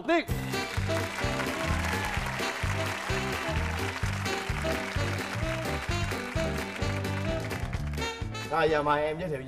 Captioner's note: applause